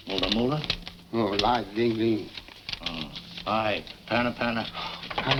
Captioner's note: speaking foreign language